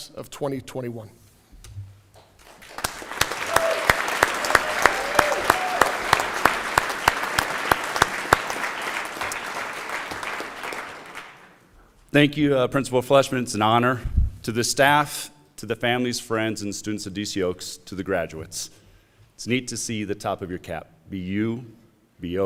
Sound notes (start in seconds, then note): 4.4 applause; 6.3 cheering